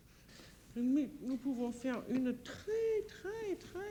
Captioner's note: conversing in French